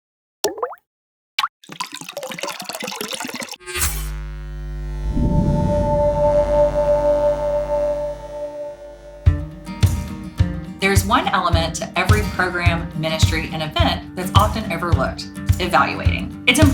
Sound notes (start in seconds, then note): 1.6 water pouring; 1.6 water dropping; 3.6 electric buzzing; 9.7 light strumming music